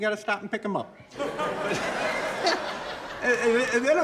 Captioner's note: audience laughing